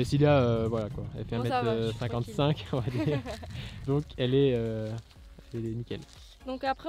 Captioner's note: laughs